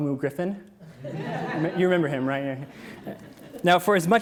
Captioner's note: audience laughs